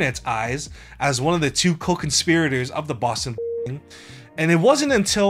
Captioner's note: beep